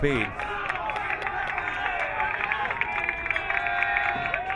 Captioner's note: crowd cheering